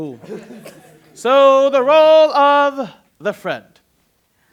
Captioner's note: laughter; singsong